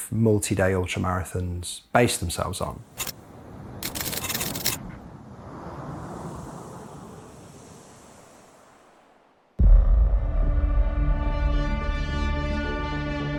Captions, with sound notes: multi-day ultramarathons base themselves on. (typing clicks) (dramatic music)